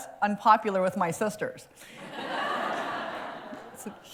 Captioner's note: laughter